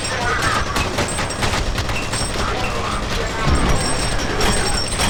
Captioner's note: bullets ring; men screaming